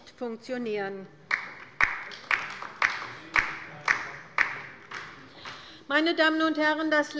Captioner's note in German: Beifall bei der LINKEN